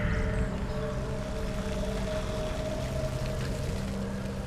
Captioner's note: wind howling